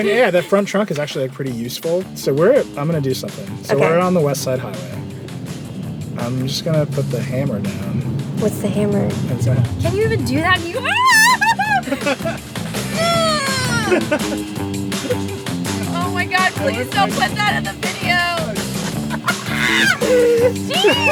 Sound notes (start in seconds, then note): 10.6 screams; 18.6 squealing